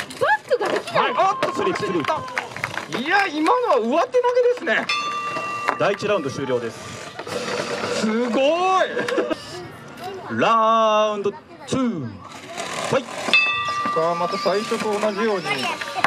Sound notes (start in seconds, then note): 4.8 bell rings; 13.3 bell rings